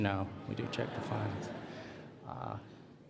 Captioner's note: laughter